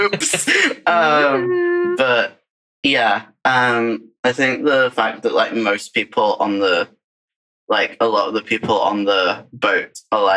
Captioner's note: laughs